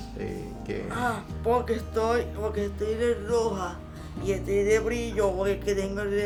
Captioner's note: speaking Spanish